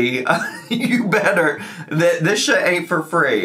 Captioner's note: laughs